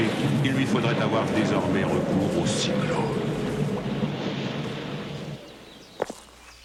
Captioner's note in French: Sifflement du vent